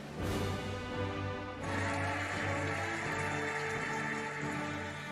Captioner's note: cheering and applauding